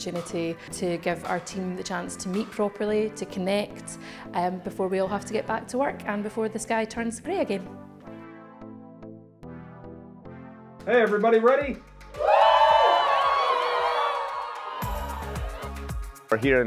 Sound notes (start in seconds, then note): 8.6 gentle music; 12.1 crowd cheering; 14.5 upbeat music